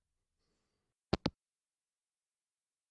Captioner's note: hangup